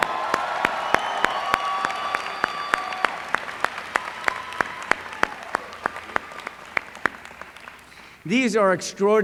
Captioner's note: applause